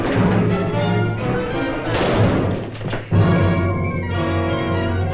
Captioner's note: gunshot bangs